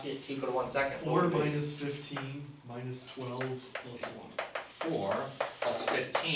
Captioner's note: voiceover